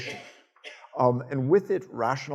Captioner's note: audience coughing